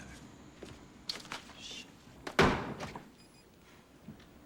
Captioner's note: slams Desk